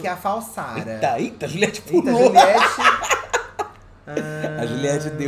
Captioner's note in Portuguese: gargalhada